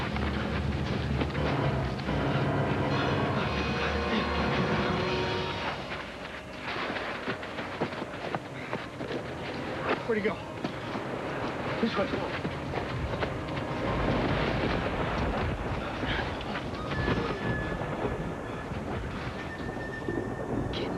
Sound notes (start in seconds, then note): 17.2 gasps; 18.7 panting